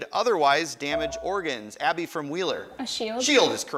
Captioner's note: buzzer chimes